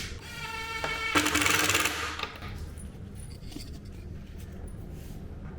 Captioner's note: screwdriver driving